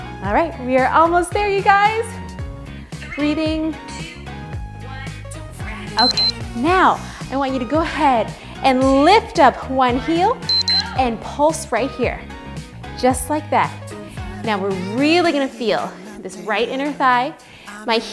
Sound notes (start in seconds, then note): 6.0 timer beeps; 10.5 beeps